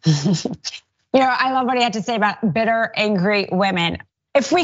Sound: laugh

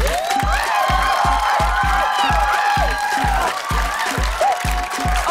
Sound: cheers and applause

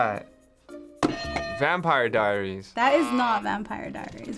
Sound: bell rings

